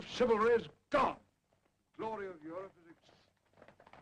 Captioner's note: horses approaching